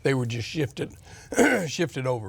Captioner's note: clears throat